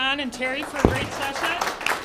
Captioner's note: applause